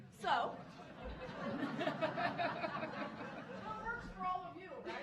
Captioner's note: audience laughing